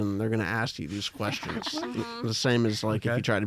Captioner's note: laughs